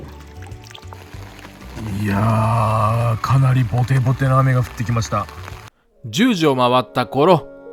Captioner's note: it starts to rain